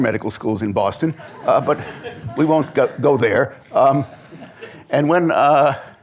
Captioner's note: laughter